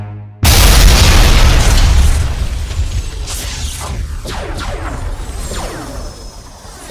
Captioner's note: dramatic music; cannons blasting; explosions booming